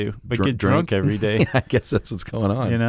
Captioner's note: laughs